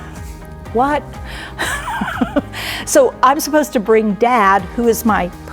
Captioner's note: laughter